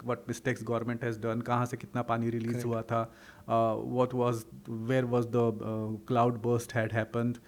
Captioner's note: hindi